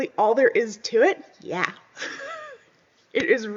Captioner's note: laughs